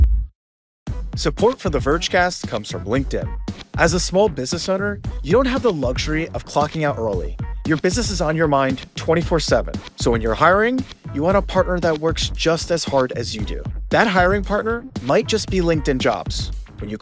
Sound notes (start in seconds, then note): 1.2 voiceover